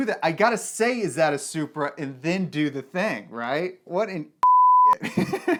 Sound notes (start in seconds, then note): 4.4 beep; 5.0 laughs